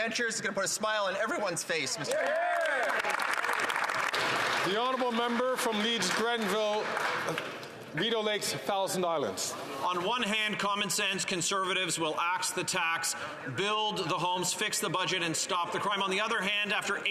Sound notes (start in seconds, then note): 8.3 some Applause